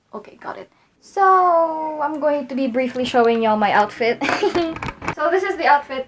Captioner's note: giggles